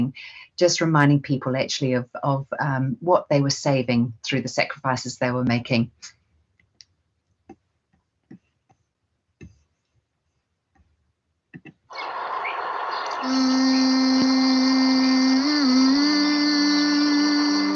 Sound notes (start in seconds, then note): 11.9 loud birds chirping; 11.9 melodic humming